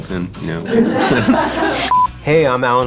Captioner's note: laugh